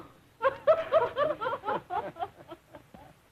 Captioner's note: laughter